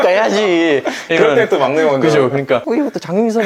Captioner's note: laughing